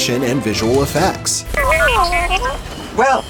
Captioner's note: whistling and beeping